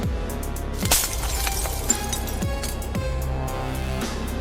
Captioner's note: glass shatters